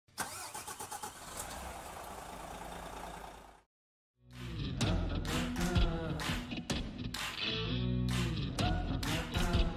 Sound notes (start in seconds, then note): 0.1 engine starting; 4.3 upbeat music